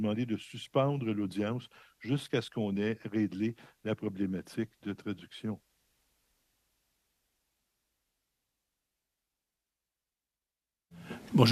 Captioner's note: speaking French